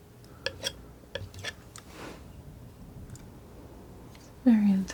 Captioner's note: scraping